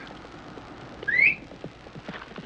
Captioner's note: whistling